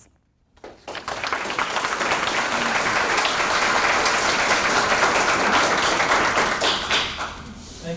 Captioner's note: applause